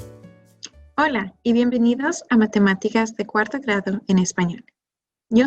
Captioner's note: speaking in foreign language